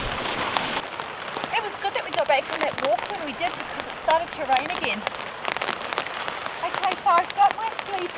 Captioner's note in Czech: Silný déšť